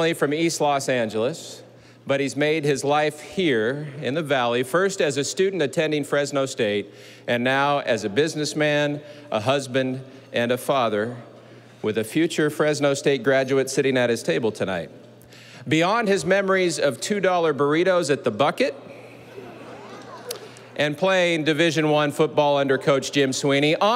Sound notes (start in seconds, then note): 19.0 audience laughing